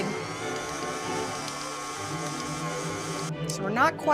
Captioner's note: mixer whirring